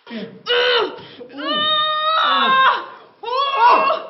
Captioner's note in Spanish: Gritos